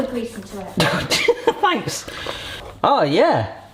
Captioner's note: laughing